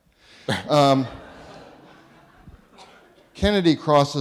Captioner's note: audience laughing